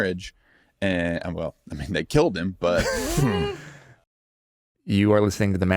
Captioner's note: laughing